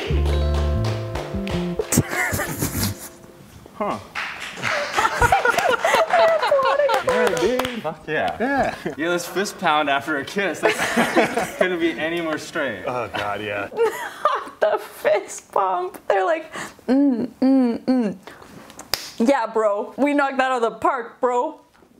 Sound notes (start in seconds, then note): 0.2 interviewer clapping; 3.8 laughing and clapping; 14.6 laughing; 18.4 claps